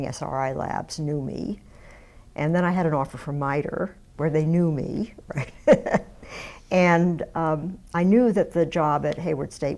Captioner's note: laughs